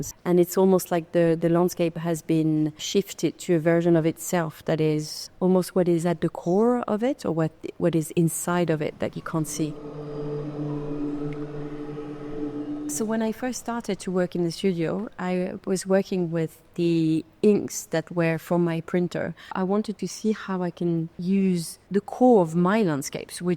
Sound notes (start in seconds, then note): 9.3 pensive music continues; 10.2 water dripping